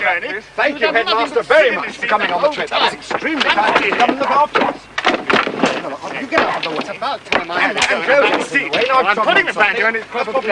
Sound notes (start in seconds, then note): 2.9 all arguing